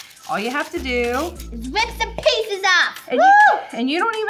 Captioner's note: cheers